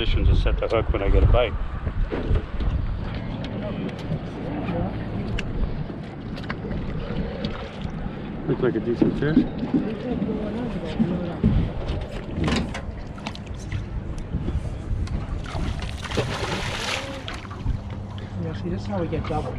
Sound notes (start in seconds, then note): 5.3 background chatter; 13.8 fish splashing